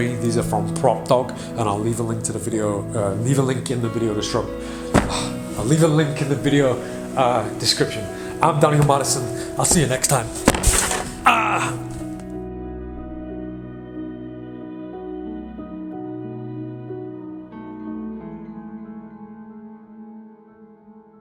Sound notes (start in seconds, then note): 4.5 sighs; 10.5 rattling; 12.1 gentle music